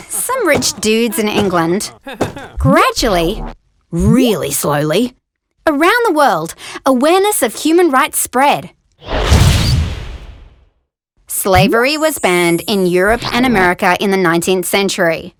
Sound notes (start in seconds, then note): 9.0 crash